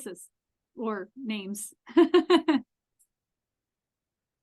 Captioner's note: laughs